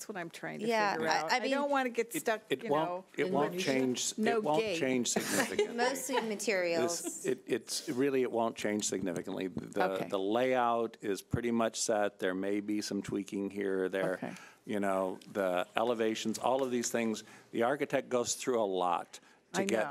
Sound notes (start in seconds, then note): 4.8 board laughing